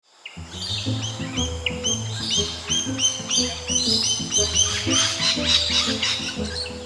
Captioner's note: rainbow Lorikeet sound